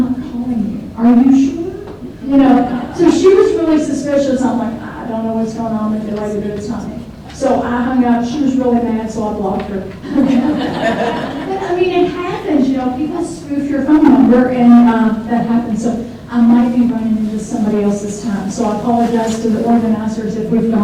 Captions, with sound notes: I'm not calling you. Are you sure? (audience laughs) You know? So, she was really suspicious. I'm like, I don't know what's going on with you lady, but it's not me. So, I hung up. She was really mad, so I blocked her. (audience laughs) But I mean it happens, you know, people spoof your phone number and that happens. So I might be running into somebody else's time. So I apologize to the organizers